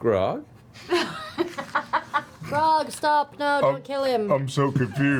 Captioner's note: deadpan